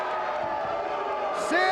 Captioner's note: audience jeers